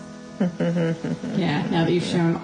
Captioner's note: laughing